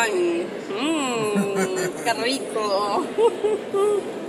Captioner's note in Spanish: risas